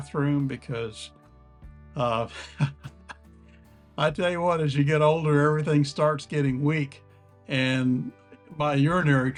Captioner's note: laugh